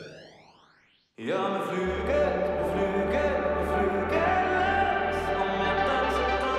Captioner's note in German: Hallend